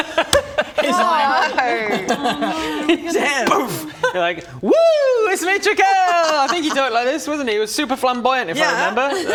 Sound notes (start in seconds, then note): 3.4 boof!